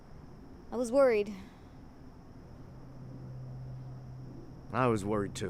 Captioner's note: sighs